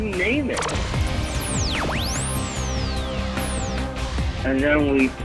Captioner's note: lasers whirring